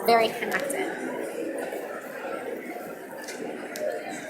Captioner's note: audience mumbling